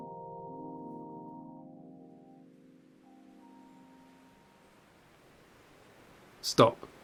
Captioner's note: music fades out, whooshing wind noise fades in